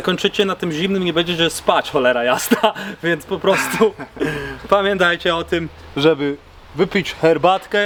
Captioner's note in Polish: śmiech